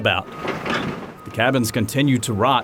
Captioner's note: construction equipment noise